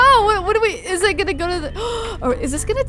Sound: gasps

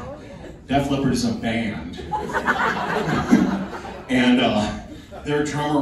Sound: laughing

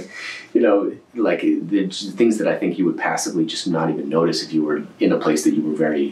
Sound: laughs

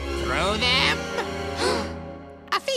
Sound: gasping

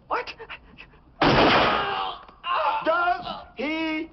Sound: gunshot; screaming

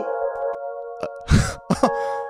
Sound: gasps

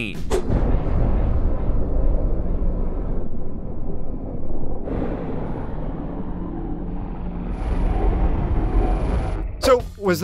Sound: low atmospheric noise

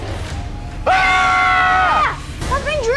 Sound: both shouting

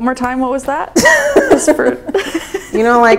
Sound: laughing

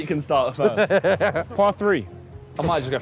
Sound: laughing

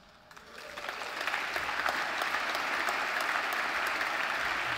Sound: audience applauds

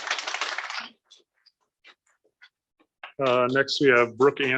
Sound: applause

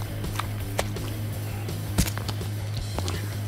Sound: squishing

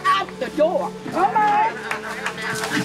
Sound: group clapping

